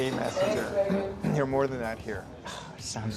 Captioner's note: clears throat